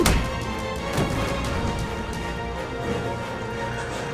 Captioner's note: Nomad growling